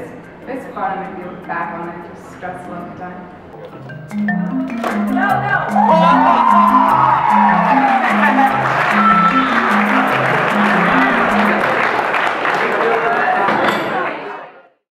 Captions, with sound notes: "It was fun looking back on it. Just stressful at the time. (laughs)" "Go, go go go go!!!" (cheers)